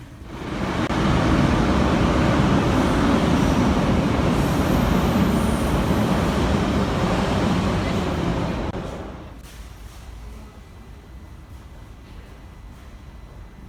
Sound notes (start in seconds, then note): 0.0 arrival of train at the station